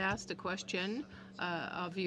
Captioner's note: speaking French